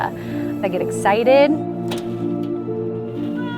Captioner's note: car door opening